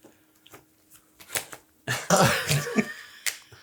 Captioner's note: laughs